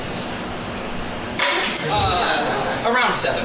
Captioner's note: shatter